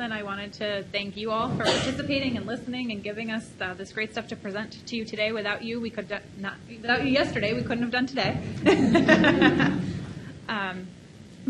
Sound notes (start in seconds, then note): 8.5 laughs